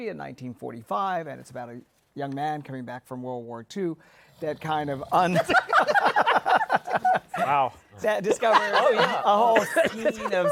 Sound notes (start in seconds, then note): 4.2 snoring; 5.3 laughter